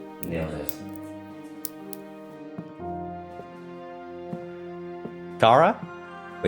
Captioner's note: walking noises go